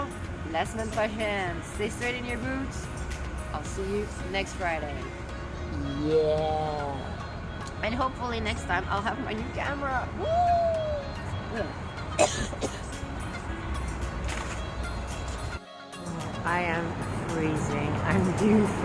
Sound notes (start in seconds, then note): 12.0 cough